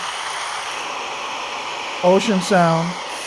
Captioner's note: waves crashing